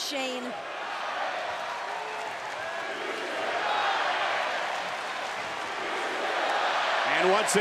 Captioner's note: applause